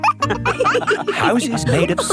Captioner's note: wolves laughing